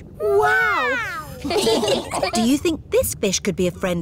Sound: laughing

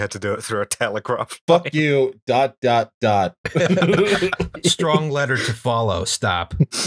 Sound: laughter

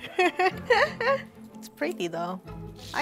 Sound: laughing

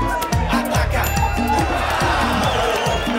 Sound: intense dance music; bell dings; crowd cheers and whistles

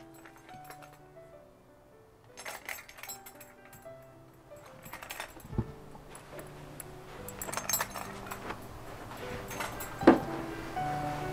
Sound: gentle music; belt rattles

